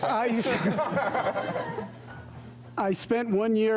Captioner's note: laughter